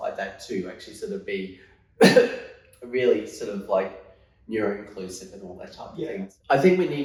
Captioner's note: coughs